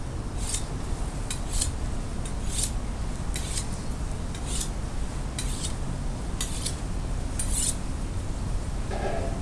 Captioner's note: knife sharpening